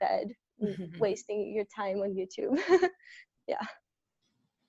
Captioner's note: chuckles